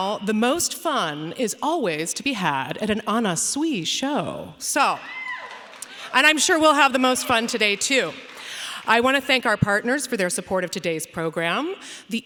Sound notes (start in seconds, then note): 5.0 audience cheering; 5.2 audience applauding